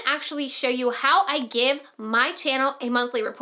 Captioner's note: mouse clicks